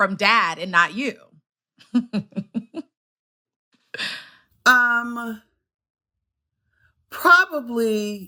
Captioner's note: giggles